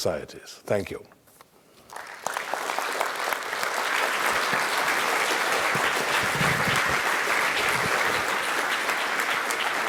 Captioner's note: applause